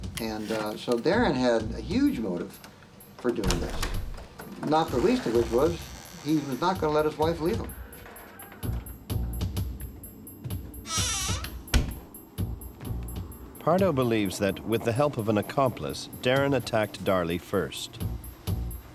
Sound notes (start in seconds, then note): 10.7 door creaks; 18.7 tense music